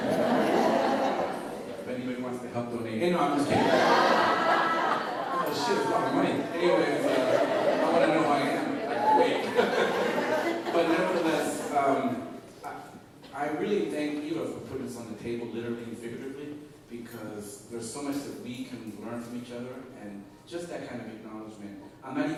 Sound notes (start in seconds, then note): 6.1 laughter